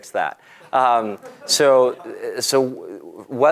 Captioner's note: laugh